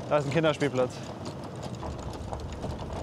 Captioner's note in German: Leises Rumpeln